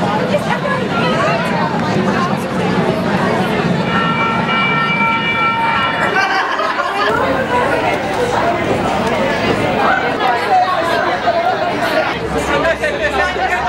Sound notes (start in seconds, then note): 0.9 patrons talking loudly; 6.1 laughter